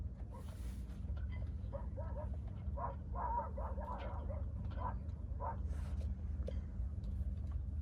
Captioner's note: distant sound of a dog barking